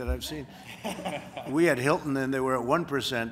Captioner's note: laughter